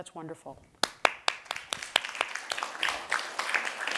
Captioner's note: applause